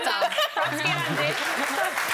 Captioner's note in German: Gelächter